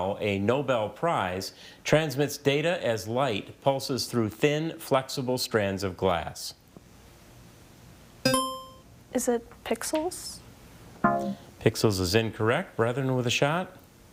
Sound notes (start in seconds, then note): 8.3 buzzer chiming; 11.0 text buzzing